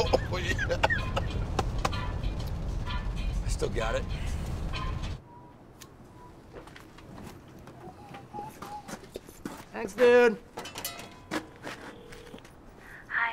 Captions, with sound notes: [coughing] Oh, yeah! Still got it. [whistling] Thanks, dude! [line ringing]